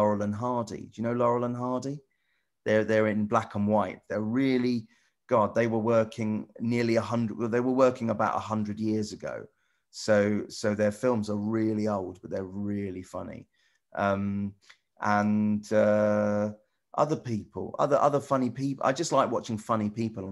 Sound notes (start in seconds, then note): none